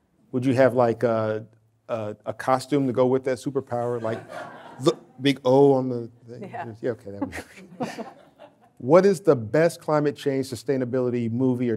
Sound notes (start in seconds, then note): 7.1 laughing